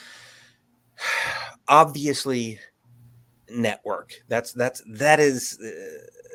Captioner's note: sighs